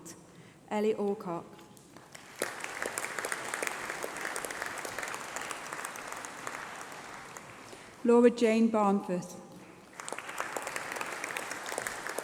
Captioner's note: applause